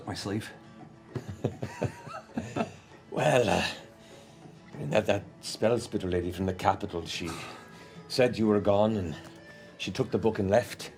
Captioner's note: laughs